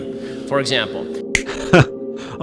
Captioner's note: snap